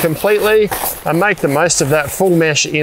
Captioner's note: tent flap rustling